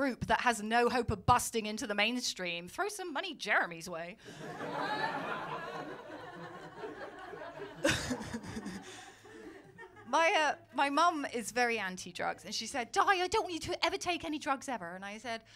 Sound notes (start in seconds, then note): 4.3 laughter